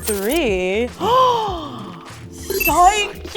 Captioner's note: gasping